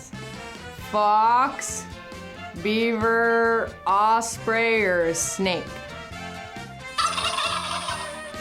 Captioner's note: buzzes